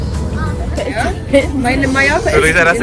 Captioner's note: laugh; speaking German